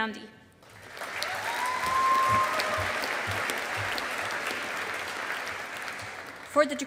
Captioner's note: audience applauding